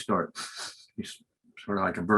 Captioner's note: sniffs